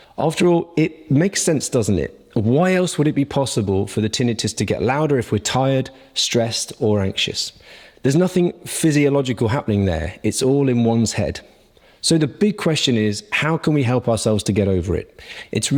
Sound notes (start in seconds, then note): none